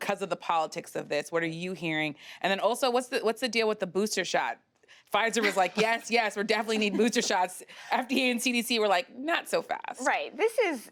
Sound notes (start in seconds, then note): 6.5 laughter